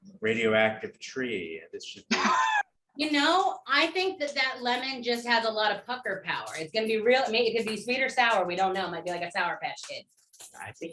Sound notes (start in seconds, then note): 2.0 laughter